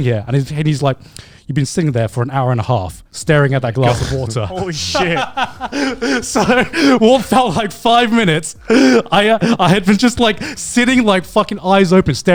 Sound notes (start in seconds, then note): 3.8 laughs